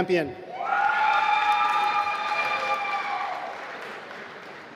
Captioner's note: applause